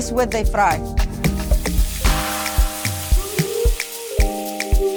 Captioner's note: sambusas sizzling